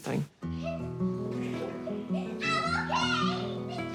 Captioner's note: giggles